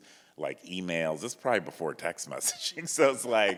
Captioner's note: laughs; chuckles